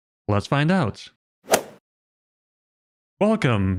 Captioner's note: golf ball hit sound effect